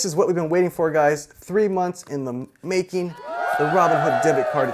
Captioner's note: crowd cheering